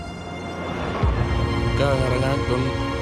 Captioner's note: gunfire and explosions; man speaks indigenous language